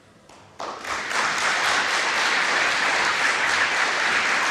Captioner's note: audience applauding